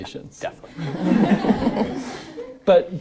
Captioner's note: audience laughing